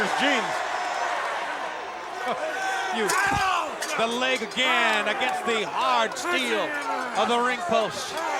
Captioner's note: laugh